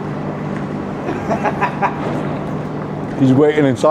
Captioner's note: laughs